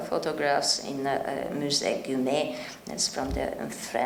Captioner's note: speaking in French